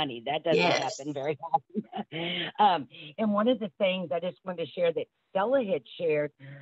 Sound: chuckles

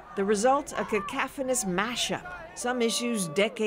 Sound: chanting

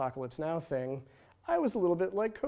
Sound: funny voice

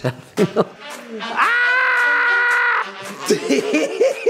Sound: screams; laughs

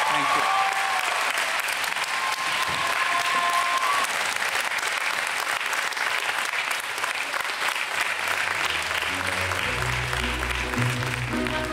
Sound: applause

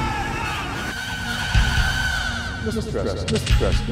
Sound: yelling

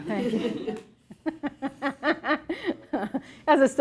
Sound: laughs

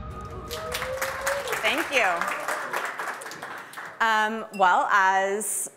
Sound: audience clapping

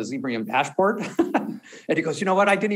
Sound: chuckles

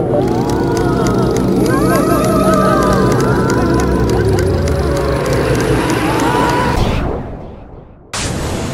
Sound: lasers blasting; machines beeping; ghostly yelling; crashing; mystical humming

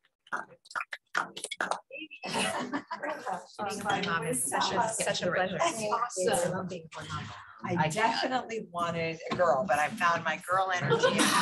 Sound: applause

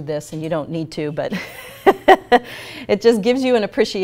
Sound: laughs

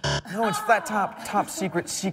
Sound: buzzer

